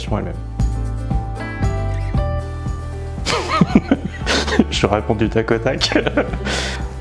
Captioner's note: laughs